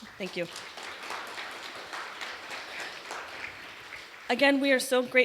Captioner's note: applause